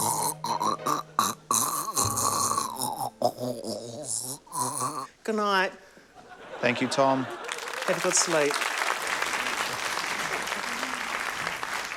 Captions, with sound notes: (CROAKS GUTTURALLY) Goodnight. - Thank you, Tom. - Have a good sleep. (APPLAUSE)